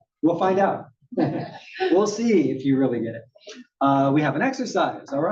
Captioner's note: laugh